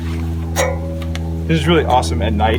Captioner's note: metal clanks